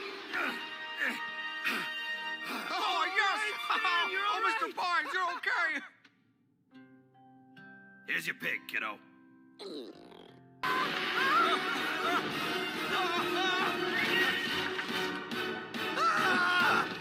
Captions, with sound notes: [Stan panting] [Soos and Dipper cheering] Here's your pig, kiddo. [all screaming]